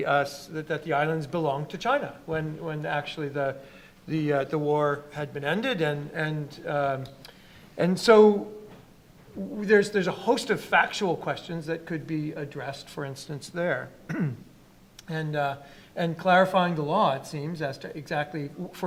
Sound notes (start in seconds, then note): 14.0 clears throat